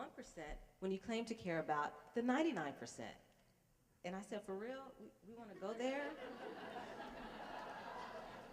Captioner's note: laughter